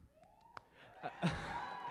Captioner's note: cheering